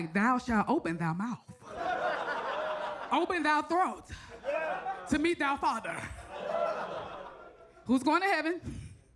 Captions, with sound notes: Thou shall open thou mouth. - Oh. (audience laughs) - Open thou throat to meet thou father. Who's going to heaven?